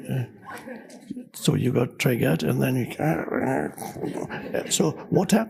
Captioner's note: audience laughs; groans